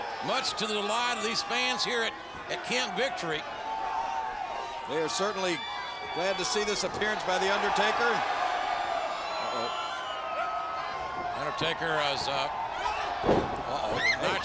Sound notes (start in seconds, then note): 3.8 troops cheer; 8.0 troops cheer